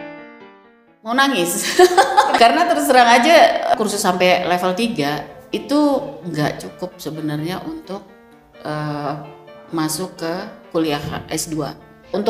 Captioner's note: Spanish